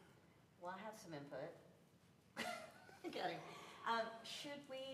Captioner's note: laughter